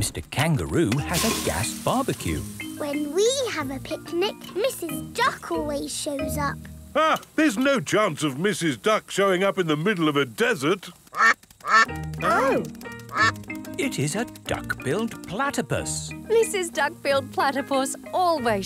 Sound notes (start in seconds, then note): 11.6 quacking